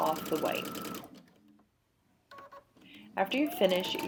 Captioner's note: machine sounds